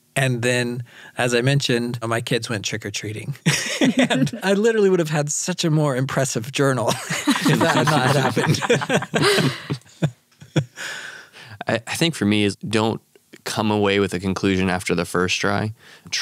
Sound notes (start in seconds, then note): 3.5 laughs; 9.2 all laugh